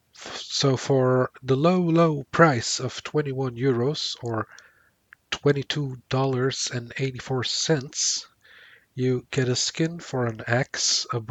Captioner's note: sarcasm